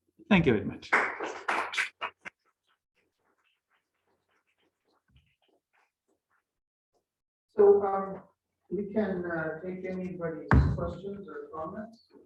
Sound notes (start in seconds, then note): 0.7 applause